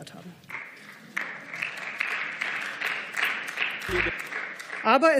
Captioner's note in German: Beifall